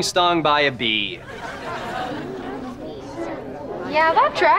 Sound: chattering

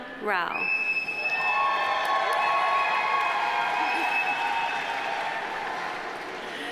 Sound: audience cheering; audience applauding

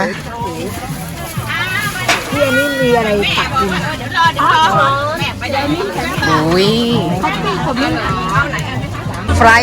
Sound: Thai voice chatting

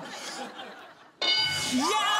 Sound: bell dings

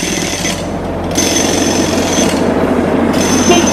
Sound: distant engine hums; car horn beeps

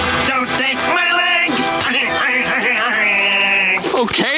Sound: crying

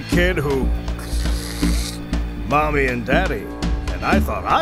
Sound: slurps

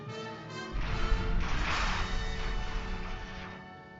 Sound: dramatic theme playing; engines roar

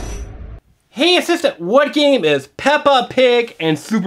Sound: voiceover

